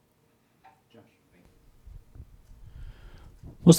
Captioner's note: murmuring